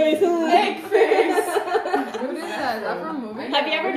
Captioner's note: laughs